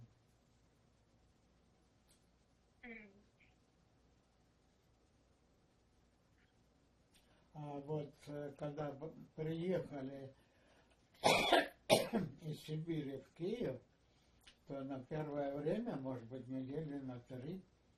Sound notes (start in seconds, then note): 0.0 pause 7 seconds; 11.2 coughing